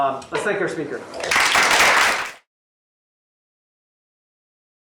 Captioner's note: applause